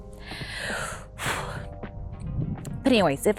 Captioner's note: deep sigh